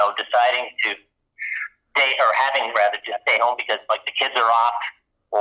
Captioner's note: inhales